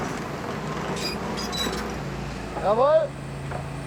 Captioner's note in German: Leises Quietschen